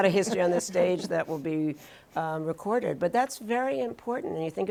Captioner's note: laughs